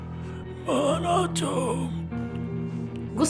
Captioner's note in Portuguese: gemidos